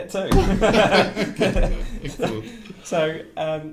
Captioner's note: laughing